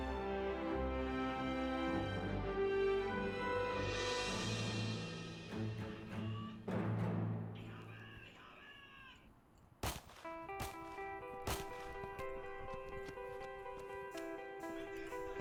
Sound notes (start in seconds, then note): 7.1 distant shouting in German; 11.4 shots firing